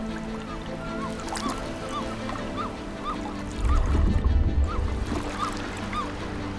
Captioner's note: water lightly lapping; birds squawking